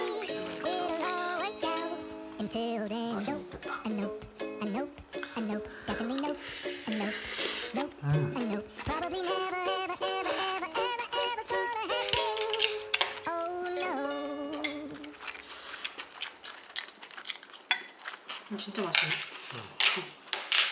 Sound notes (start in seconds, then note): 10.2 chomp; 10.2 slurp